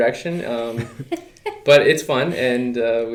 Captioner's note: laughing